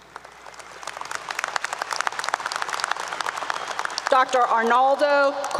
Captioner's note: applause 👏 👏